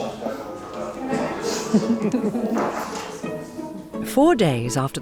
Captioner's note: people chattering